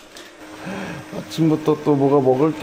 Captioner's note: tomatoes cooking